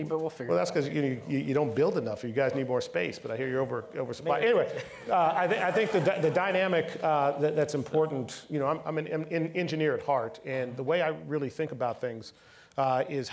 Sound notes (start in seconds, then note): 4.3 all laughing